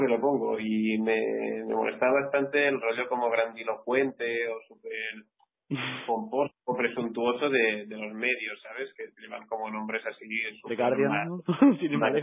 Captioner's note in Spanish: risas